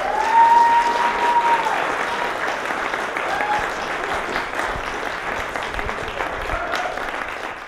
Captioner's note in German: Beifall, Jubel